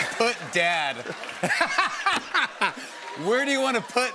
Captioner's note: laughter